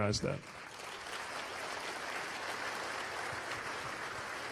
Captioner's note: applause